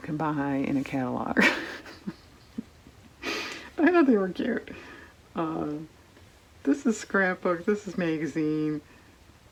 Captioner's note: laughs